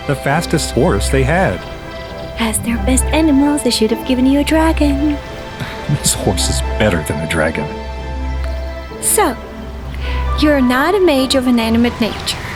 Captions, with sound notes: The fastest horse they had. - As their best animal, they should have given you a dragon. - (chuckles) This horse is better than a dragon. - So, you're not a Mage of Inanimate Nature.